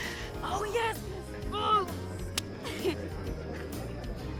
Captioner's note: high-five clap